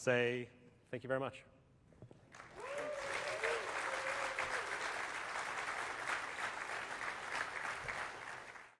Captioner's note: applause